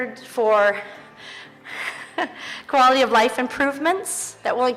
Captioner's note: chuckles